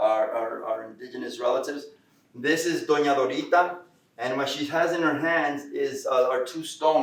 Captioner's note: Spanish